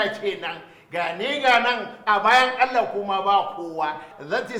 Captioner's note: rambles in Hausa